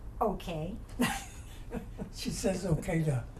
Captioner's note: laughs